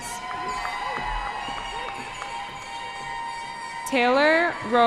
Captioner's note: cheering